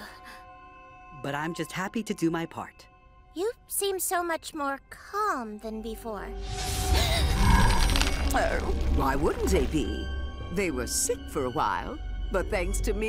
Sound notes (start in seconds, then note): 6.6 gasps